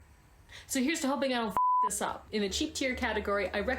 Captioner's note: beep sound